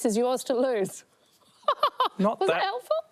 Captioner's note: laughs